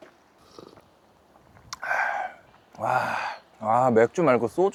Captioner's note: slurping the broth too